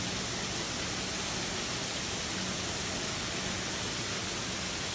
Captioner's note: water gushing continues